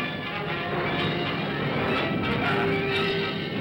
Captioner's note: dramatic ominous music; thunder rumbles